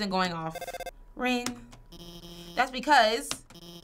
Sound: phone ringing

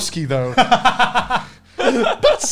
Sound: laughs

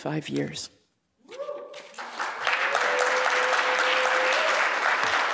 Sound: cheering, applause

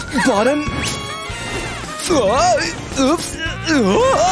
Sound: grumbles

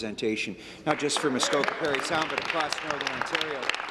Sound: some Applause

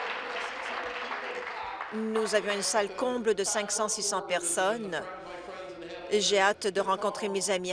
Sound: applause

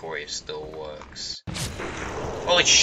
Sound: gunshot

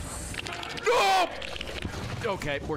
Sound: screams

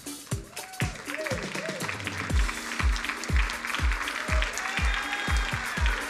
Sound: crowd cheering and applauding

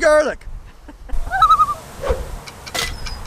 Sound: loon call

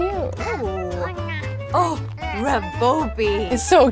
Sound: Sim's speaking gibberish

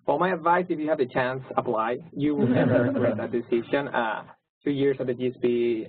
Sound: laugh

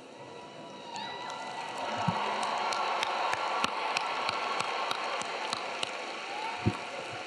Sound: audience cheering; audience clapping

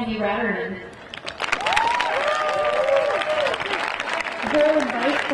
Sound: audience clapping and cheering

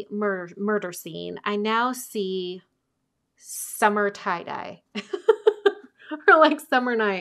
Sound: laughing

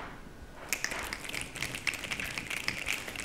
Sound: applause

